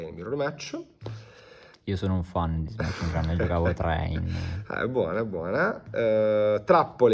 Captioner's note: laughs